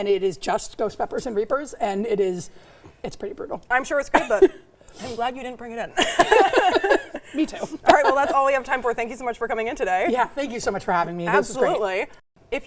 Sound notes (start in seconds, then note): 4.2 laughs; 5.9 laughs